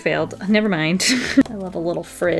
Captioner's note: laughs